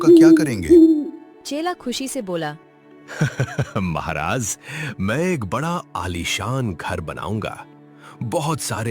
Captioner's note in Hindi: हंसी